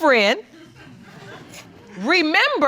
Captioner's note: audience laughing